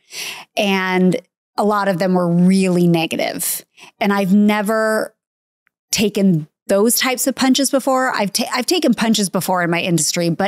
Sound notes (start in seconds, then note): none